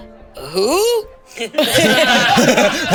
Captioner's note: all laugh